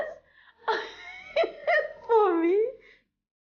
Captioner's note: laughing